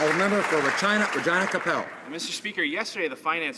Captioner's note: some Applause